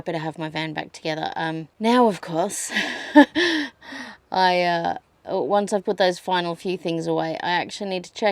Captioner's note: scoffs